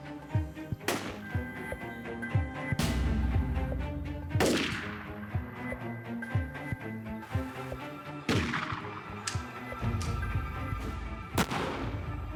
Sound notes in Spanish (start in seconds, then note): 4.2 continúan las detonaciones